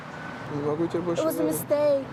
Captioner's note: speaking russian